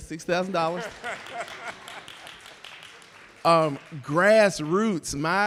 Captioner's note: audience clapping; laughing